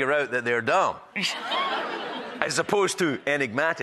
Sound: audience laughing

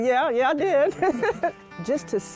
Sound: laughter

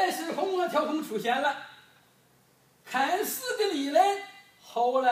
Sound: speaking foreign language

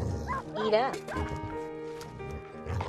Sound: dog barking

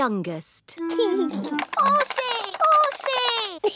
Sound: giggles

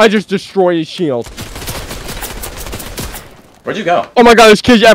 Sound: rapid gunfire

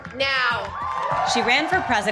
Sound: cheers and applause

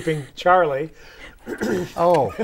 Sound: laughing

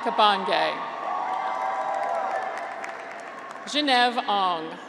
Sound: graduates cheer

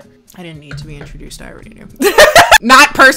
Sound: laughs

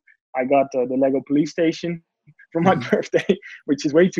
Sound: laughs

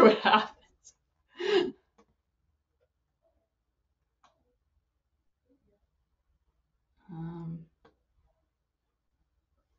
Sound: no audio

